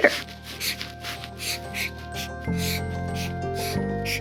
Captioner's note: pen scribbling